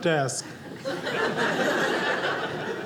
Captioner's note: audience laughing